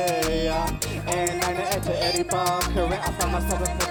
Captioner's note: in Tamil